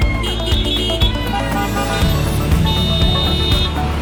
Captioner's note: horns honking